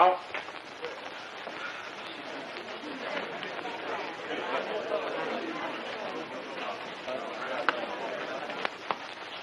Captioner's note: murmuring